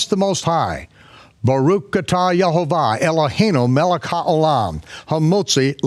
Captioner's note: speaks in foreign language